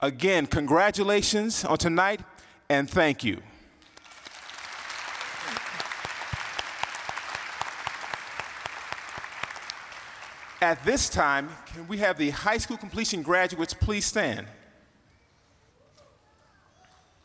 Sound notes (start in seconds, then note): 3.8 applause